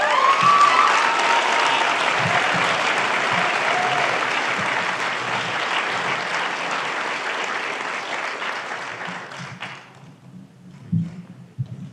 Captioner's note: applause